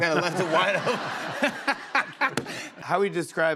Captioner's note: laughs